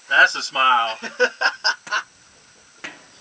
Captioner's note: laughter